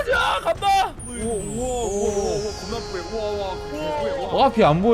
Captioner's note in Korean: 휘이이잉 / 히이히윙